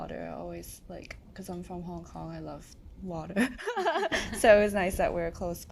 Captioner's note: laughs